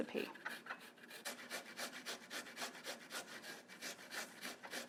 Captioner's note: ginger scrapes